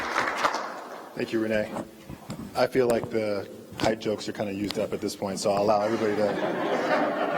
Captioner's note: applause